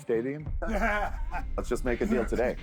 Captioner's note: laughter